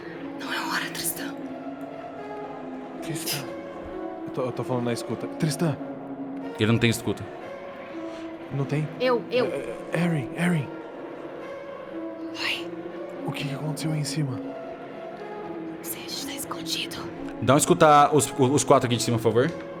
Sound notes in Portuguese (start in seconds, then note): 0.3 sussurra; 3.1 sussurra; 10.0 sussurra; 12.5 sussurra; 15.9 sussurra